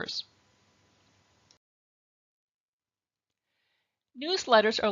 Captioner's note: silence